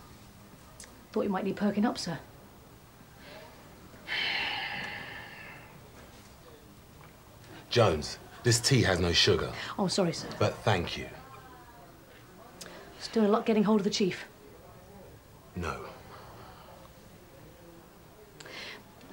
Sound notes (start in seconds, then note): 3.5 Phil sighing heavily